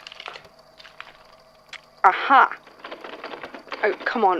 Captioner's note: looked doorknob rattling